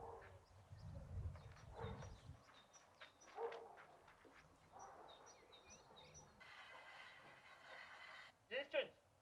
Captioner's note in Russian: щебет птиц